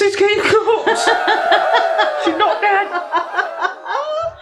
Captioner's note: cheerin